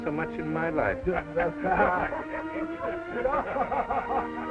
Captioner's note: all laugh